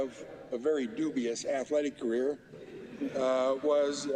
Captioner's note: laughter